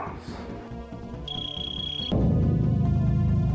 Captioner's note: super bomb noises